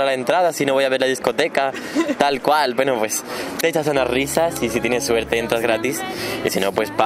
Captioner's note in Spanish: risas